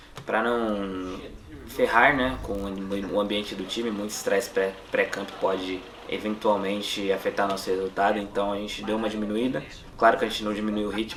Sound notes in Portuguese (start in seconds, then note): none